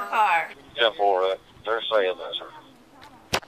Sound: radio chatter

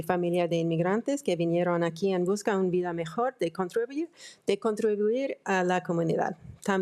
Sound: speaking in foreign language

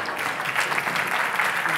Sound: applause

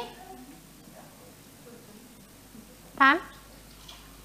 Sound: murmuring

